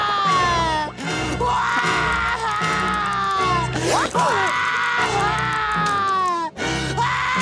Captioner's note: screaming; crying, screaming